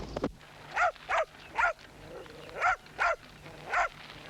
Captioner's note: dog barking